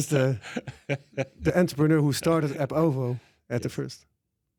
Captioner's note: laughs